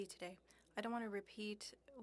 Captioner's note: speaking French